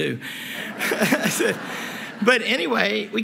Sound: laughter

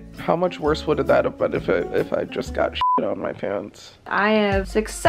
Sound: beep

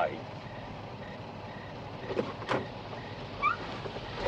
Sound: crickets chirrup

